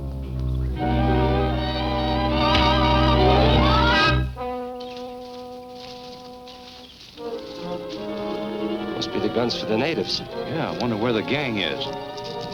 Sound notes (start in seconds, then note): 2.9 dramatic music; 2.9 fist thuds; 7.2 soft suspenseful music